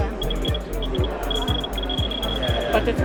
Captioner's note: click, click, click